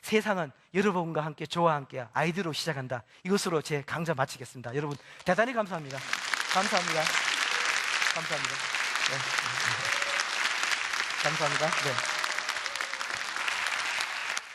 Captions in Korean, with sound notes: 세상은 여러분과 함께 저와 함께 아이디어로 시작한다 이것으로 제 강좌 마치겠습니다 여러분 대단히 감사합니다 감사합니다 (박수)